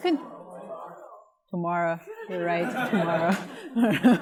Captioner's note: laughter